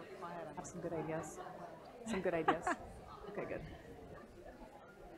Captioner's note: laugh